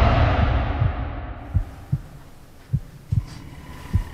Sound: heartbeat

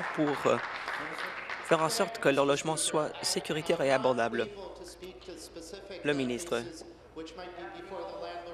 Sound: applause

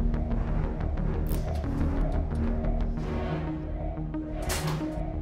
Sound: cabinet opens

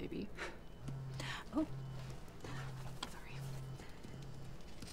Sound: phone buzzes

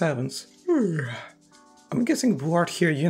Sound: yawn

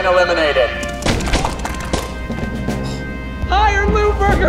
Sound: paint splattering

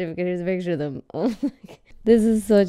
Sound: chuckling

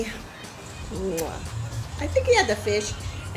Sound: muah

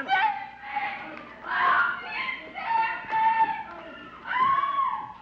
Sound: Dussel shouting

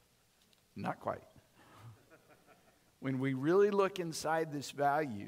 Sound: audience laughing

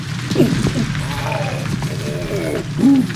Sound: groans; thud; gasp

